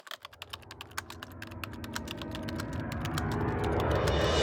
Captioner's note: typing sounds